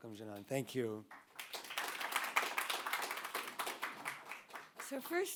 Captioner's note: audience applauding